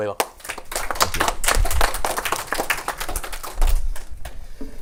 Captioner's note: clapping